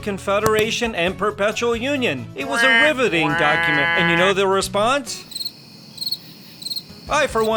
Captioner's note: crickets sound